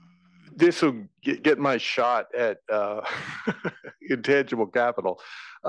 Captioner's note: laugh